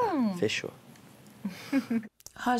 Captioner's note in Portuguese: risos